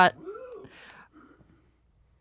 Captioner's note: lone woo